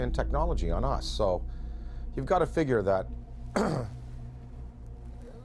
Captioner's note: coughs